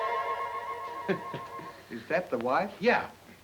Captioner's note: Ollie laughs